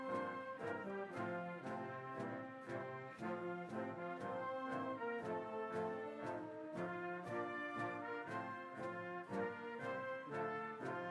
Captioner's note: applause